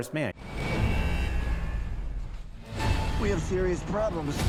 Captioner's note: dramatic, ominous music; alarms buzzing